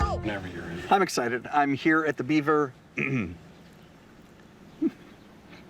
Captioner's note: clearing throat